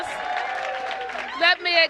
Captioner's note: applause